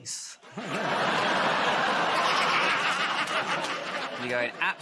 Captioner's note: laughter